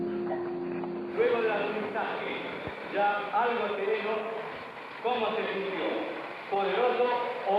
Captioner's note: man speaking Spanish